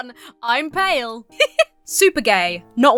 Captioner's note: giggles